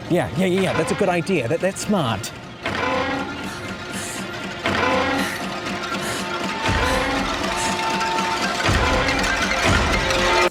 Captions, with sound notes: - Yeah. Yeah, yeah, yeah. That's a good idea. That smart. (PHONE LINE RINGS) - (GASPS)